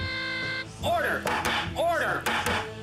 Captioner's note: wacky music; banging